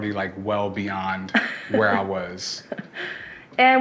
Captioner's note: laughs